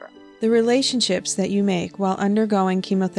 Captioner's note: voiceover